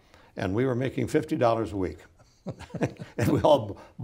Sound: both laughing

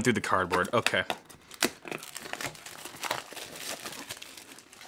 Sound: plastic crinkling

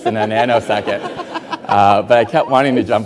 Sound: Rachel and audience laughing

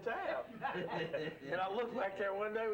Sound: laughing

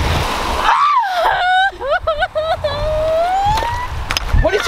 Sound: crying

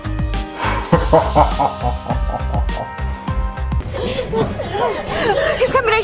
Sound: neighbor laughing dramatically

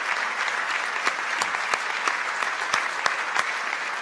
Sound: applause

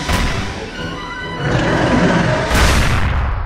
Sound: roar

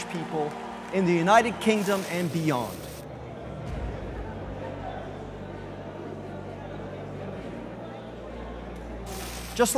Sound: crowd Noise

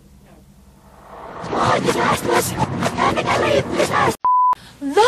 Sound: reverse demonic-sounding chanting

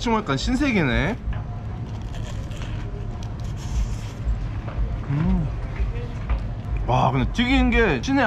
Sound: eating sound

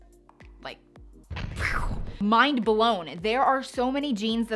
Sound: mimics explosion noise

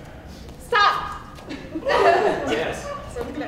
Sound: laughter

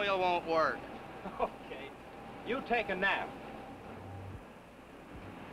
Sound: chuckles

